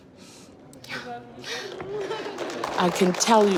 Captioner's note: sobbing; applause